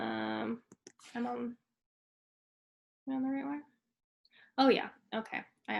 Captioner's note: speaks faintly